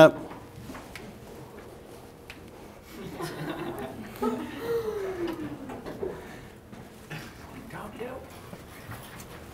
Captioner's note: laughter